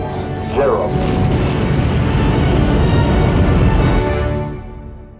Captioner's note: rocket engines booming